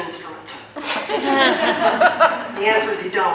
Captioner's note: audience laughter